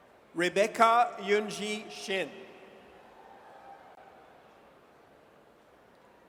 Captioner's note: audience cheers